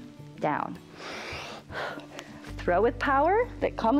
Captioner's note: inhales